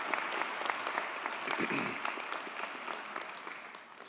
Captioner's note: throat clears